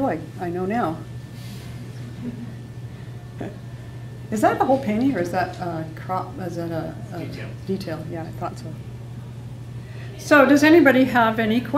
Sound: laughs

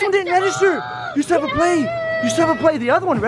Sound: gasps

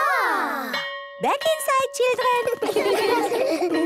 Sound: school bell

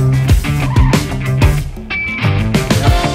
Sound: tires screech

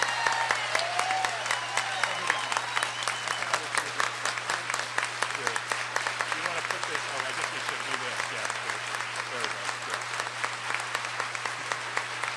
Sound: applause

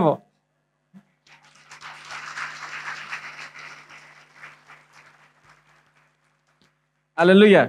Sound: applause

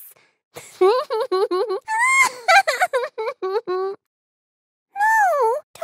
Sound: evil Laugh

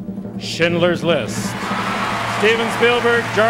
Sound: audience cheering

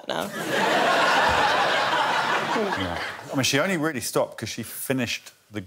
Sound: laughter

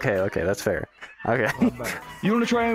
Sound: laughs

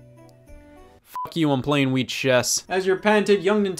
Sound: beep

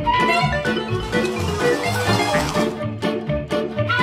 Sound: lively music; sliding noise; lively music

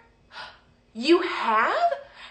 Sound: gasping

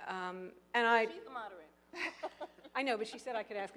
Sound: laughs

